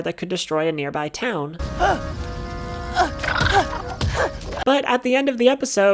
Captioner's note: Sokka grunting